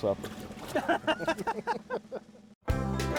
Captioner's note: laughing; bright country music